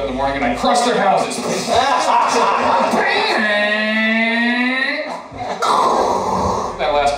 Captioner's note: Godzilla sounds; stomping sounds